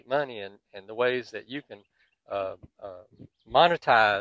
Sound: birds twittering

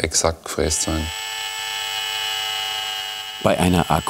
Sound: the machine whirrs

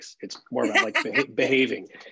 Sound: laughs

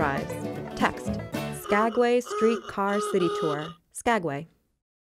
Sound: horn blowing

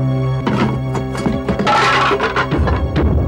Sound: rattling

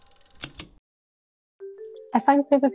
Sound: device ticking feverishly; device clicks

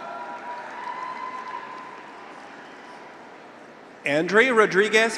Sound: graduates cheer; audience applauds

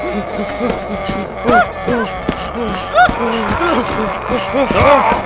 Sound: running, screaming

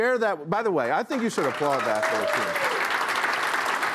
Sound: applause

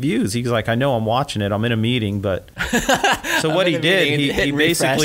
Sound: laughs

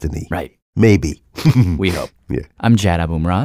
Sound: laughs

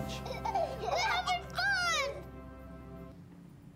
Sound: laughs

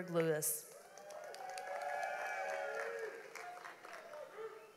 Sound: audience applauds

